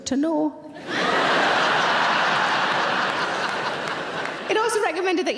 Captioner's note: audience laughing